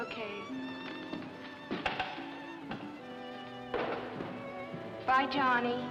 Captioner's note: Johnny's footsteps